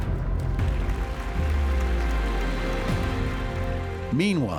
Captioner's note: applause